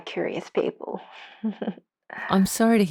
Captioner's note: laughs slightly